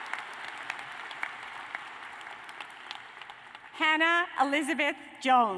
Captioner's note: cheers and applause